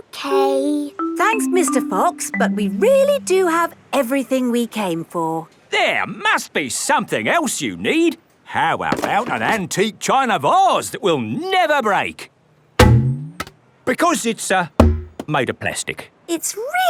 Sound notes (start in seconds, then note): 12.8 thunks